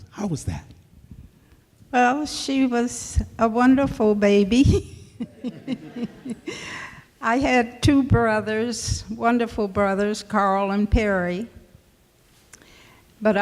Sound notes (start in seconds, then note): 5.2 laughs